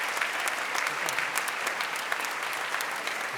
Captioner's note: applause